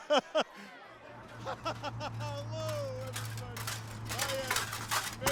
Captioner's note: laughing; armor clanking